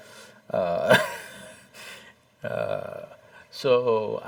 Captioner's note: Cười; laughs